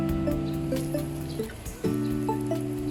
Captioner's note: sizziling sound